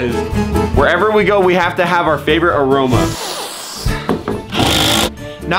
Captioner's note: sniffs